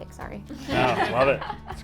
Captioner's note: all laugh